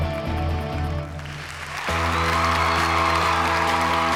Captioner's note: cheering